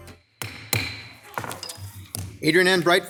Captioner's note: gavel thudding